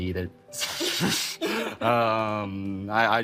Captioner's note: chuckling